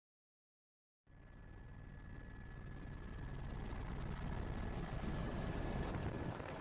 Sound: helicopter blades thumping

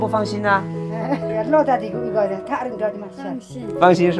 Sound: in Sherpa language

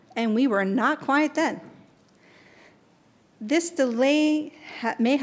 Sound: none

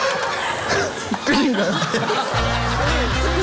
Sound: laugh

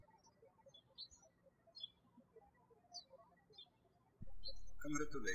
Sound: birds chirping

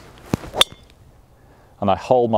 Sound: ball thwacks

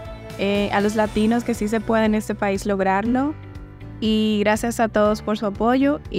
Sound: woman with striped shirt speaking Spanish

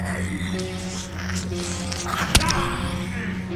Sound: zombie growls; blow thuds

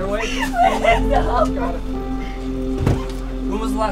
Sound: crying

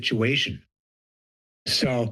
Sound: pause

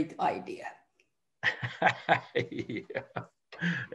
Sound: laughter

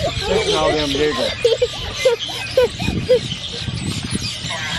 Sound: laughs

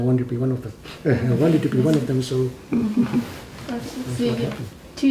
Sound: laughs

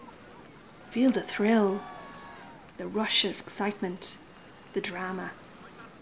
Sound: cheering

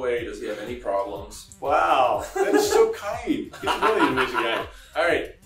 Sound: laughing

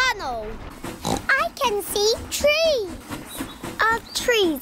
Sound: oinks

